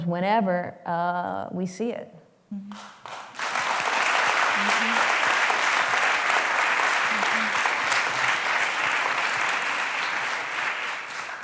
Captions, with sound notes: whenever we see it. [APPLAUSE]